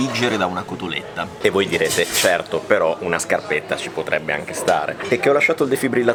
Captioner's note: bread dipping